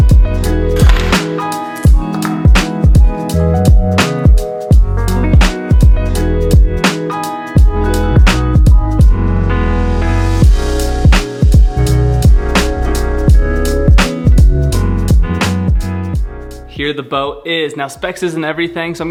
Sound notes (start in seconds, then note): 0.8 metal clanging on table